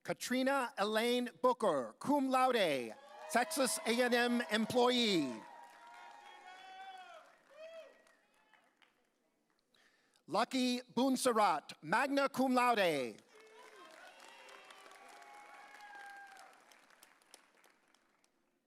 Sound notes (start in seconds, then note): 3.0 audience applauding; 15.5 audience cheering